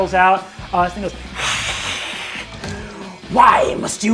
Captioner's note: hisses